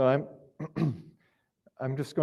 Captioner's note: clears throat